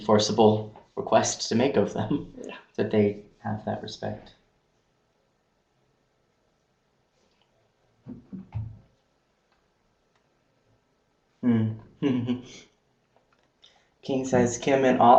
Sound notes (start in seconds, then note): 12.0 laughing